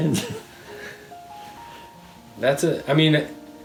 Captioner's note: chuckling